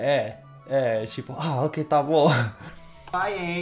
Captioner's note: laughs